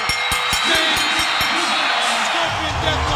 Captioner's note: bell ringing